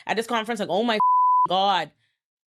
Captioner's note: beep